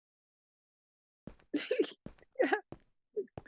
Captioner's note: luaghing